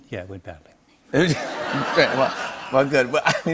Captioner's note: laughter